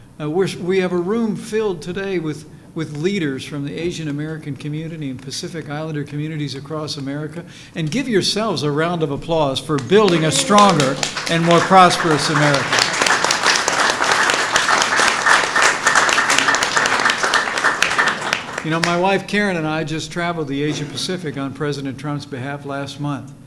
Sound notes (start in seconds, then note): 13.1 applause